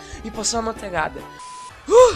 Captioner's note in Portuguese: suspiro